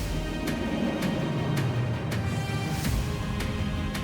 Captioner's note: engines roaring